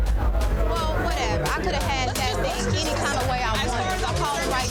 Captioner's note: overlapping chatter; tense music